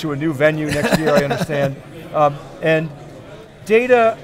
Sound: laughing

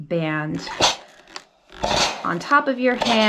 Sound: steam iron whooshing

